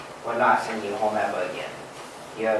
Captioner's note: none